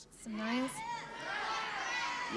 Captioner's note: audience shouting